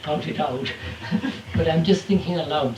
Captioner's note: laughter